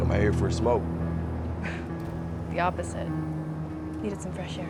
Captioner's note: sighs